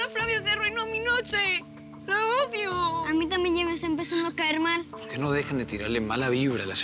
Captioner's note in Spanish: Solloza